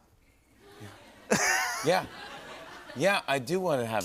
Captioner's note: laughs